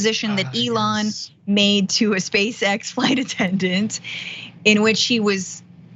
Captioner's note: laugh